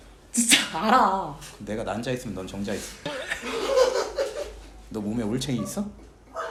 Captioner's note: bursts into laughter